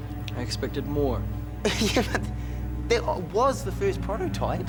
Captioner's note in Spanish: risas